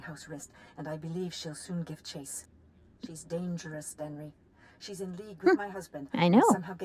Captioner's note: giggles